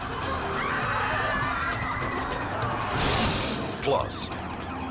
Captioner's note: screams; siren